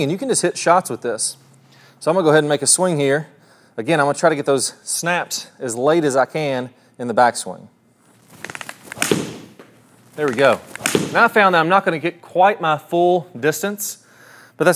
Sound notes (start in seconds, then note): 8.4 device snaps; 8.9 golf club whacks ball